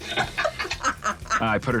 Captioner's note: laughing